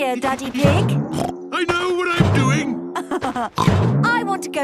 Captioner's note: laughs; snorts